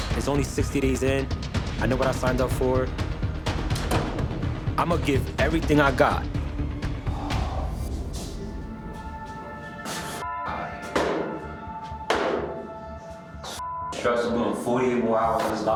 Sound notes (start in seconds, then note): 6.8 tense music; 7.1 sighing